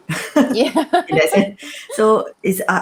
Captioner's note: laughter